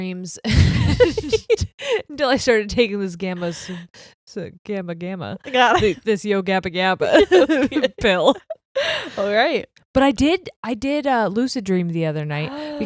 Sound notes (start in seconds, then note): 0.5 both laughing; 7.1 chuckles; 7.1 both laughing; 12.5 gasps